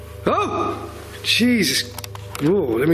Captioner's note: surprised yelling